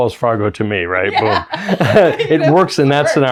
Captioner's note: laughs